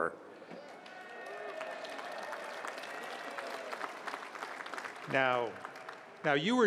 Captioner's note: applause